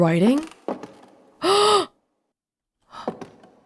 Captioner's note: gasp